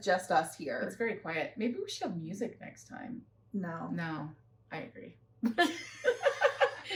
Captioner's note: laughter